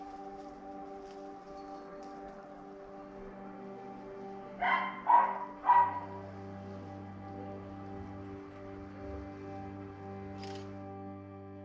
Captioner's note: camera click